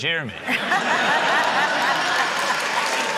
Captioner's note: laughter, applause